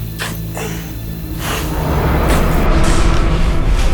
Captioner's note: dog barking; dramatic music